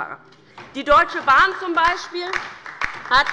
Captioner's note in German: Beifall bei der LINKEN